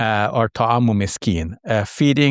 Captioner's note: speaks in foreign language